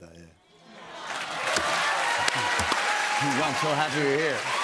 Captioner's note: cheers and applause